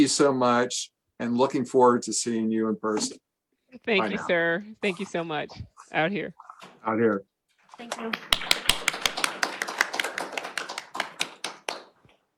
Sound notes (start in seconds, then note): 8.1 applause